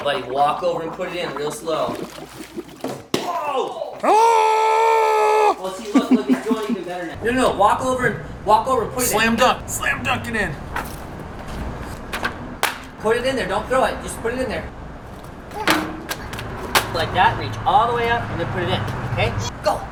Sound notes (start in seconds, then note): 0.0 laughing; 3.8 screaming; 5.8 laughing